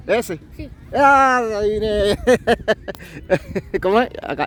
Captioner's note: laughs